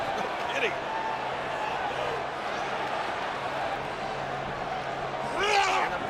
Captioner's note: laughs